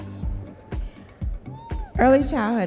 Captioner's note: audience members cheering